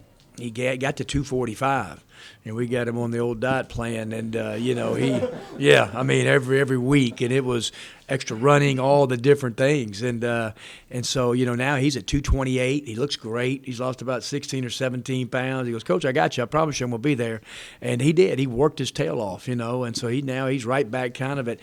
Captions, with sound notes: He got to 245. You know, we got him on the old diet plan and you know. [laughing] Yeah, every week, and it was extra running, all the different things and so, now he's at 228. He looks great, he lost about 16 or 17 pounds. He goes, "Coach, I got you, I promise you Imma be there." And he did, he worked his tail off. And so he now, he's right back, kind of at,